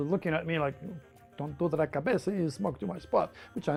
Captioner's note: speaking in foreign language